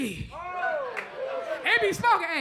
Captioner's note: crowd murmurs